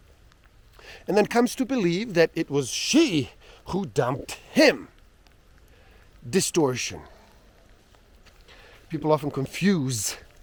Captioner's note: distortion